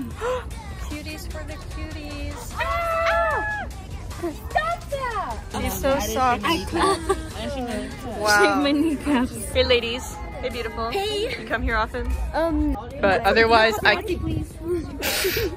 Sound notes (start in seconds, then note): 0.0 gasps; 2.5 scream